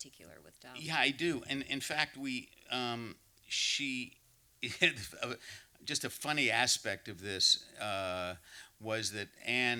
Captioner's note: laughs